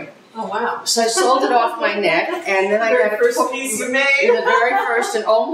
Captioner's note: laughter